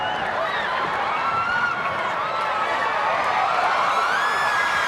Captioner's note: crowd cheering